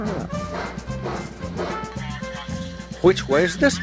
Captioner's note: energetic music; train huffing